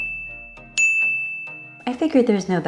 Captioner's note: ding sfx